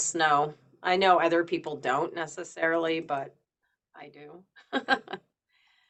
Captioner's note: chuckles